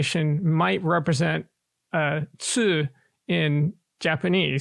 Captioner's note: speaking japanese